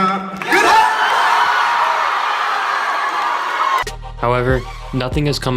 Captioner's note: audience cheering